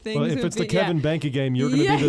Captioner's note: laughs